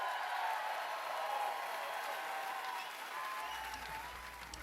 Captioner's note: cheers and applause